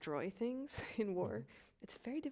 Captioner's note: chuckles